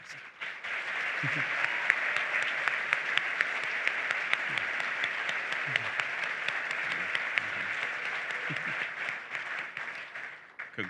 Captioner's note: applause